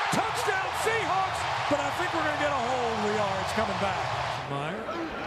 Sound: crowd cheering

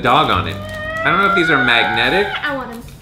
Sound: screams

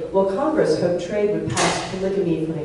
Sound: loud bang

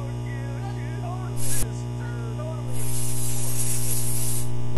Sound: electricity noises; spray paint; electricity noises

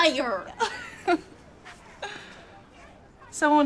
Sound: chuckles

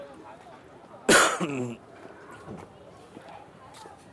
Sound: coughs

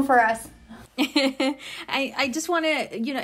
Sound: laughs

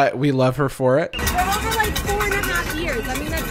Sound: metal cans clashing

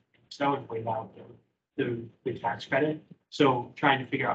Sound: speaking faintly

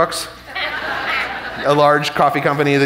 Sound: audience laughing

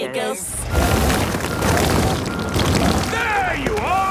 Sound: rock crumbling

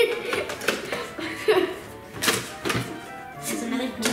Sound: laugh

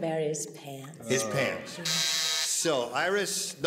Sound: buzzer

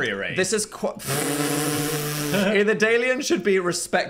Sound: laughs

